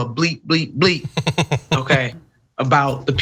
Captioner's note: laugh